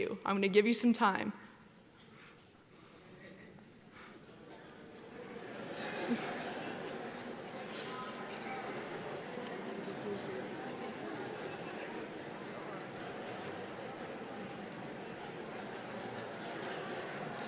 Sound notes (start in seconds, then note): 6.8 audience murmuring